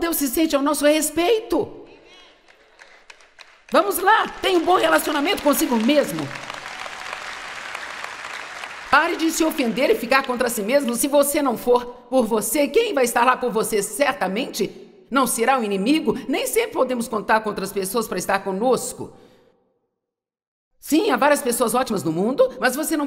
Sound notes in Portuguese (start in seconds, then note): 2.7 audiência aplaude